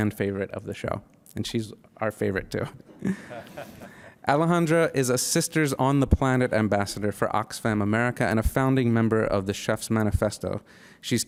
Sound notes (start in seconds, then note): 2.9 men laughing